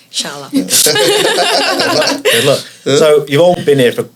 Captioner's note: both laugh